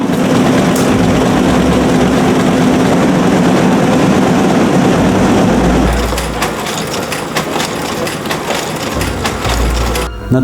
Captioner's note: typewriting; printing